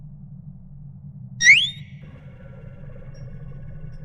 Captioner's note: Tali beeps in affirmation